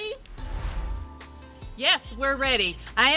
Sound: air whooshes

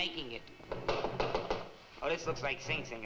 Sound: door knocking

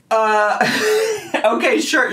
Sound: laughs

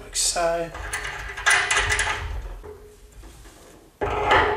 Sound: metal banging

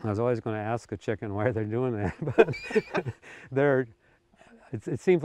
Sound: both laughing

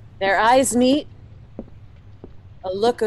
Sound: footsteps

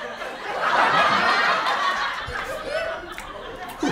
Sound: audience laughter

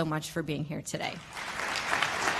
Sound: applause

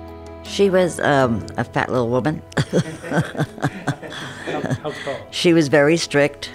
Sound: all laugh

